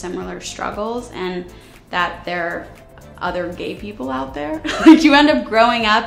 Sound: chuckles

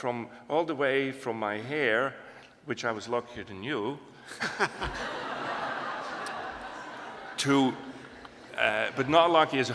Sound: laughter

